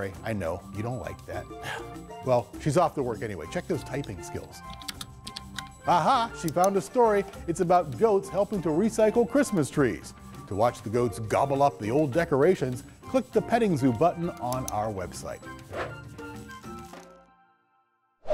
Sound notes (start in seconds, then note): 4.7 keyboard clicks; 15.7 bright music